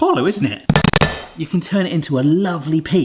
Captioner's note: hammer rapidly slamming